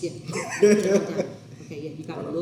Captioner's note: laughs